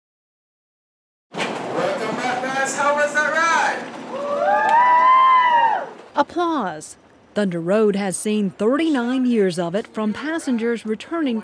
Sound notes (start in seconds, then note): 4.0 cheering